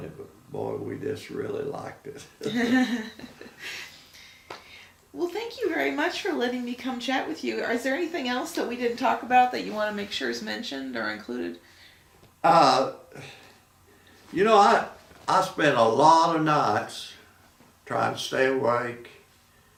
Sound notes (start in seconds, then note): 2.4 laughing